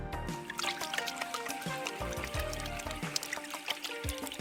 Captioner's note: water splashing